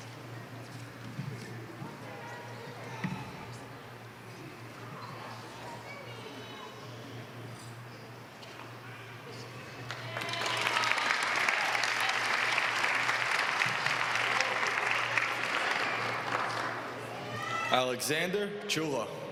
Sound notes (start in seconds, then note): 7.0 applause